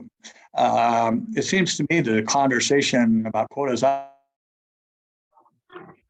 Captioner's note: mic cuts